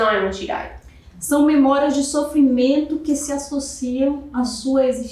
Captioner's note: speaking portuguese